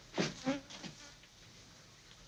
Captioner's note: fly buzzing